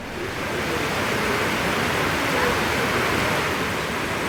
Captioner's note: heavy rain on tin roof